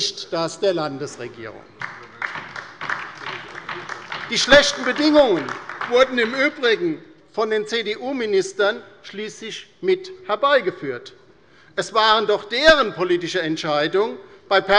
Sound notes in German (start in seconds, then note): 1.7 Beifall bei der LINKEN